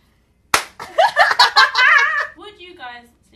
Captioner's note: laughter